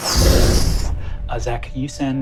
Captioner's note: mimics air whooshing